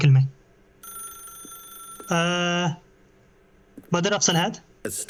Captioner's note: phone ringing